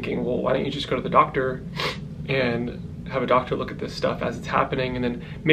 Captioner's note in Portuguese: fungada